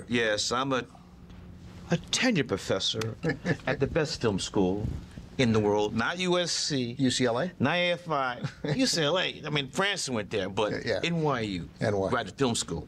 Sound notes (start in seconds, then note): 3.1 laughs